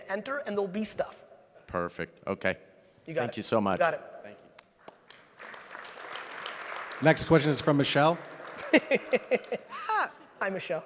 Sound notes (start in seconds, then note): 5.2 audience applauds; 8.6 Gary laughs